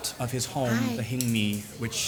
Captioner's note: foreign language